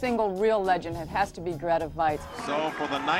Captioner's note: man over TV